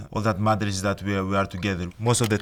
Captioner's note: keyboard clicking